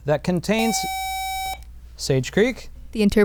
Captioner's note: buzzer